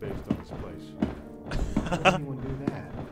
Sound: laughs

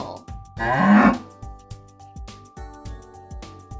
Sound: bull grunting

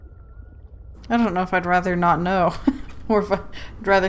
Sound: laughs

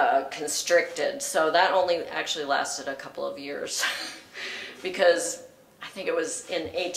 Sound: laugh

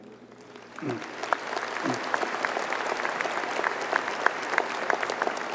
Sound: audience applauding

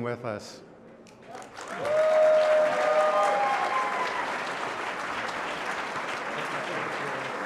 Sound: applause

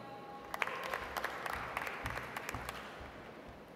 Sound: audience applauds

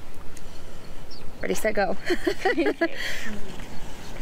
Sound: laughing

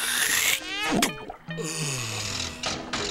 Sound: sighs; engine mechanical noises

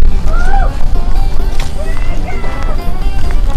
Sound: shouting

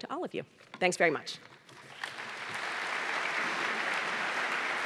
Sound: applause

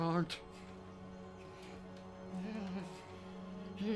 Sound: distressed noises

